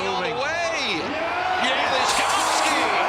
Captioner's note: crowd Cheers